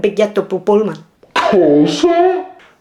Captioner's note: in Italian